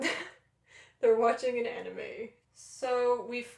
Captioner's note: laughter